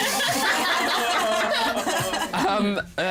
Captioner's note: laughter